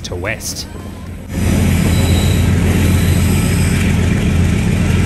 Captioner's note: train engine roaring